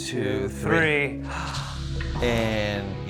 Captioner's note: gasps